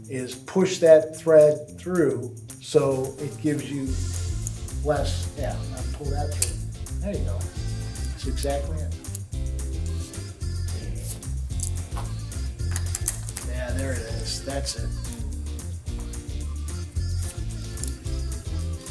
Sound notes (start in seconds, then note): 9.3 upbeat music; 11.0 buckle clicks; 15.2 upbeat music continues